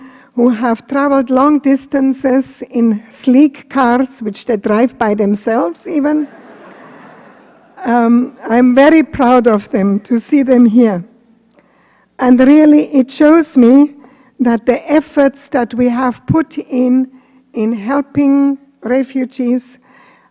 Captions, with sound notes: who have traveled long distances in sleek cars, which they drive by themselves, [LAUGHTER] I'm very proud of them to see them there. It shows me that the efforts that we have put in in helping refugees, the efforts are